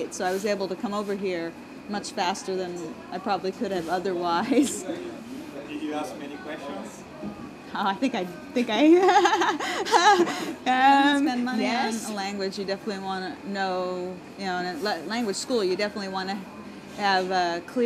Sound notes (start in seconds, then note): 8.8 laughing